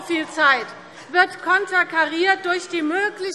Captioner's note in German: Zurufe Freie Demokraten: Oh!